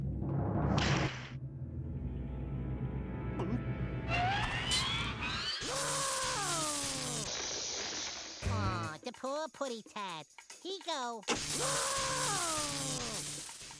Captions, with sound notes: [screaming] AH, THE POOR PUSSYCAT. HE GO... [Sylvester screaming]